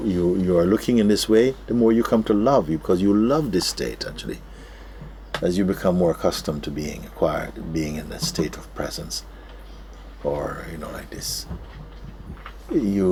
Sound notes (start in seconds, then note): none